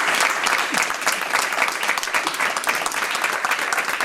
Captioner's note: audience applauding